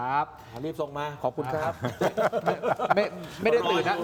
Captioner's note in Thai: เสียงหัวเราะ